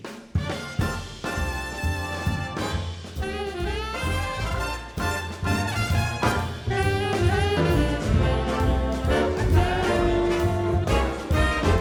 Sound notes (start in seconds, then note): 7.4 guests chattering